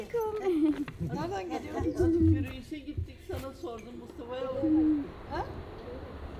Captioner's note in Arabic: بالتركية